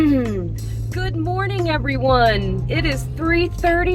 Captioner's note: clears throat